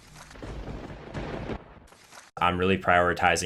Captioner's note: thunder rumbles